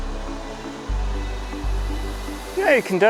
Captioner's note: water rushing